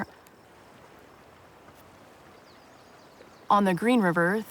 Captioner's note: water flowing